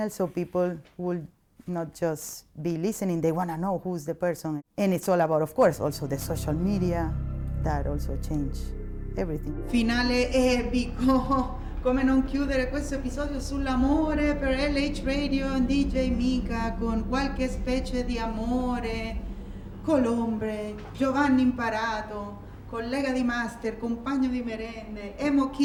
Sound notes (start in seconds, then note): 10.5 speaking Italian; 25.4 speaking Italian